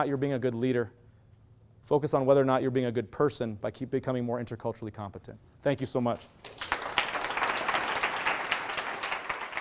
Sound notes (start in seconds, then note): 6.2 clapping